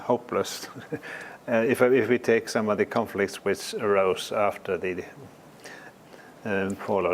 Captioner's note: laugh